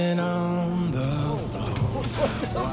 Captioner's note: yelling "woa woa woa"